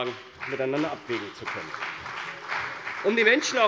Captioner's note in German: Beifall bei der CDU und dem BÜNDNIS 90/DIE GRÜNEN